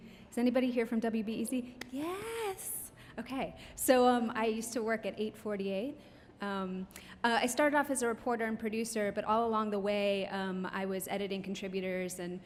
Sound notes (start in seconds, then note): 2.3 claps